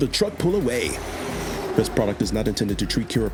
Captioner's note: truck engine revving